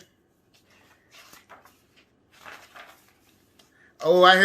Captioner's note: book flapping